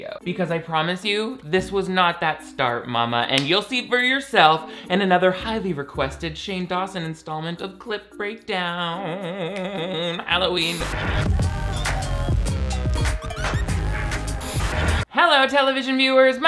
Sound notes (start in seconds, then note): 10.6 static crackling